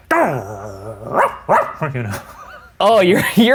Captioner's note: growling; barking; laughing